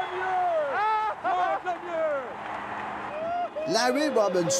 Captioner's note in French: acclamations